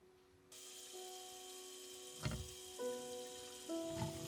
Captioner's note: water flows; gentle sorrowful piano music